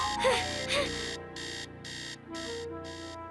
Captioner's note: alarm blaring; gasping